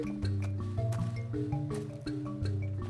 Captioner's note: footsteps on leaves